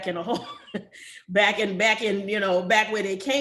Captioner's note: chuckles